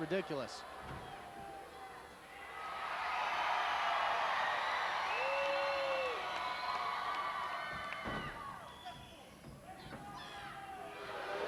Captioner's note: applause